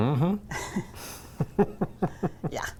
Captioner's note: laughing